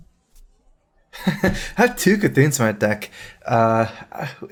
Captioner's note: laughs